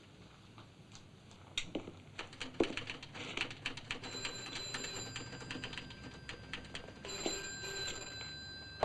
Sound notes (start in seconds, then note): 2.1 typewriter chattering; 4.0 phone ringing; 4.0 typewriter chattering; 7.0 phone ringing; 7.0 typewriter chattering